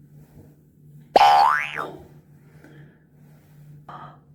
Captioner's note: boing